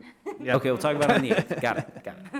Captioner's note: everyone laughs